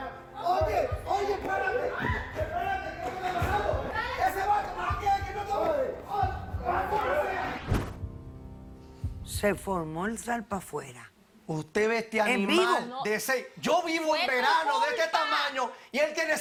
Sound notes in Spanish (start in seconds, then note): 7.5 Todos gritan